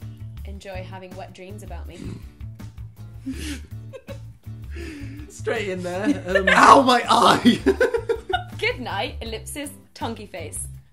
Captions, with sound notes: Enjoy having wet dreams about me. - Straight in there. (laughing) Ow! My eye! - “Goodnight...” Ellipsis, tonguey face.